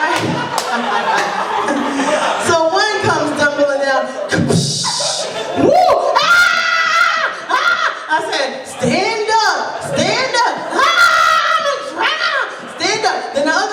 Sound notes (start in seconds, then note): 0.0 laughter; 4.2 mimics splashing sound; 5.6 screaming; 10.8 screaming